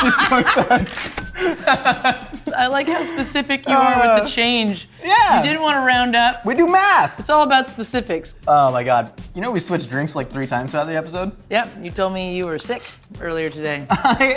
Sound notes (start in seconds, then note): 0.0 laughing; 0.9 cash register dinging